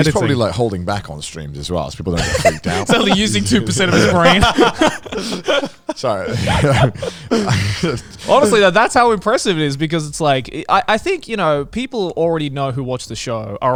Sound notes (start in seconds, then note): 4.2 group laughs; 7.1 chuckles